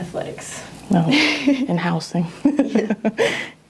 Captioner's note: laughs